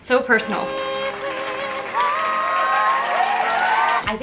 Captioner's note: cheering and clapping